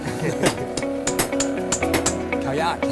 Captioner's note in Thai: เสียงตอกตะขอ